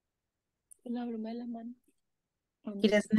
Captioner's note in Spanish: estudiante hablando en voz baja